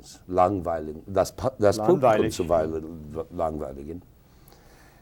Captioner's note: speaking a foreign language